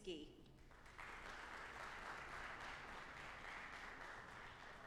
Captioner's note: audience applauding